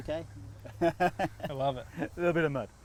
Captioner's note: laughing